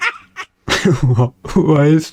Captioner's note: laughs to myself